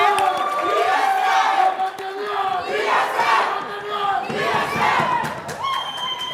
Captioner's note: muffled crowd chanting